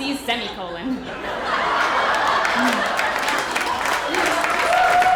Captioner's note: audience laughter